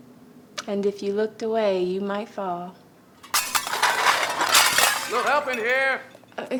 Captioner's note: loud crash sound